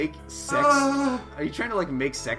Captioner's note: moaning